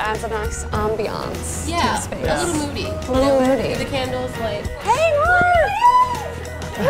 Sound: squealing

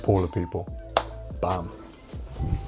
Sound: claps hands

